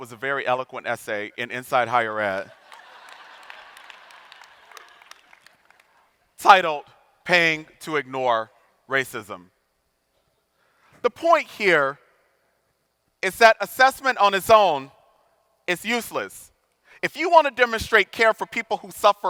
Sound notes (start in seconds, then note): 2.5 audience laughing